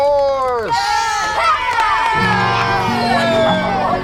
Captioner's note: kids cheering; gentle music